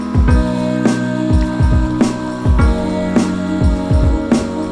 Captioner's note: waves crash; wind blows